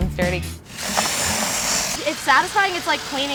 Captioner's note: drill whirring